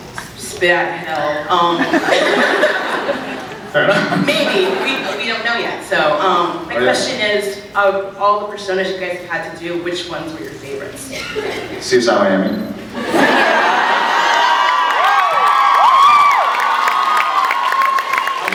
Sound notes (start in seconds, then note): 1.7 laughing; 1.8 scattered laughs; 13.0 laughs, cheers, applauds